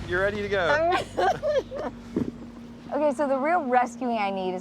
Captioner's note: laughs